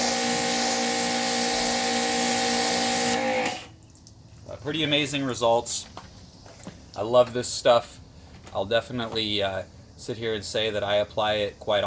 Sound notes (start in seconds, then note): 2.7 water spraying